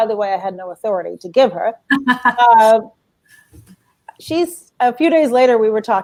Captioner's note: laughter